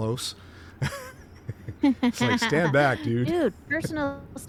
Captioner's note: laughter